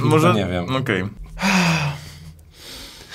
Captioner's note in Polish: wzdycha z błogością